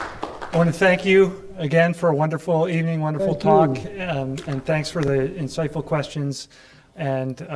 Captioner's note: applause